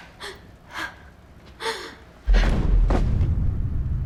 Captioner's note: gasping